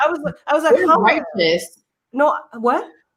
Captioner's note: murmurs